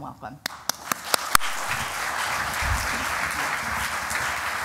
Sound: applause

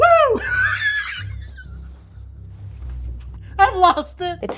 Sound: laughing

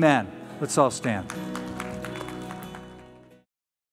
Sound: applause

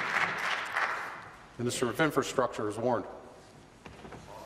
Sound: applause

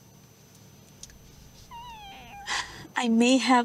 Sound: cat's meow

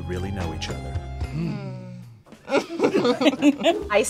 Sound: laughs

